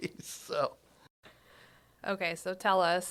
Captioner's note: laughing